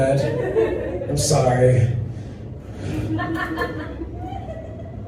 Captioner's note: laughter